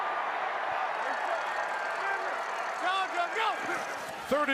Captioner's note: football players yelling